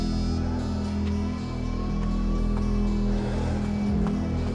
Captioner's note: sirenas